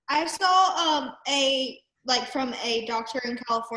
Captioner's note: none